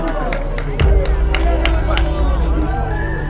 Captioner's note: cheering